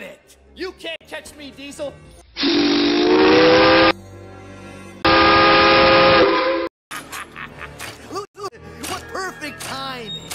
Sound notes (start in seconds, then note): 2.4 whistles in three chime; 6.9 laughs